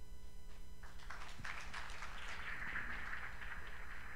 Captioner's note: applause